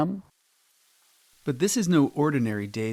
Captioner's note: water pattering